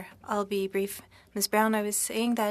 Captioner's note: speaking French